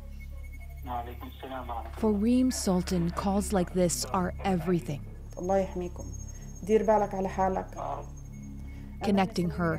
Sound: speaking alternate language

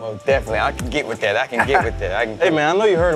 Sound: laughs

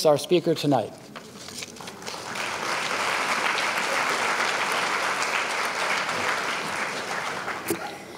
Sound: applause

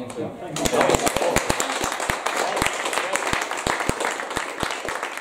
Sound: audience applause

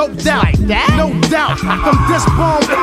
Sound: singer laughs

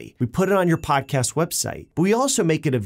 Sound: bell dings

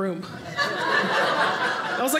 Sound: audience laughing

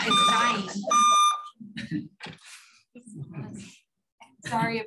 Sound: beeping in the background

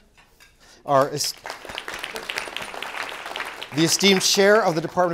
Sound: applause

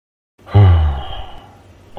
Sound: sigh

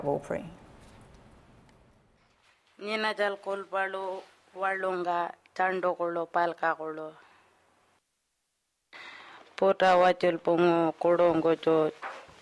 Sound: foreign language

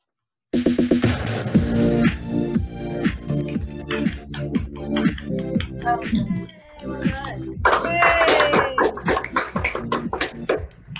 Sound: clapping and cheering

